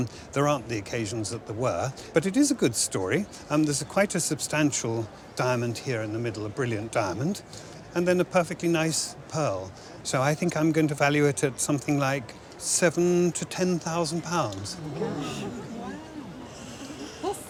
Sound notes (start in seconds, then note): 14.7 crowd gasps